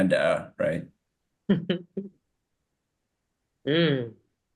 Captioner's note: chuckles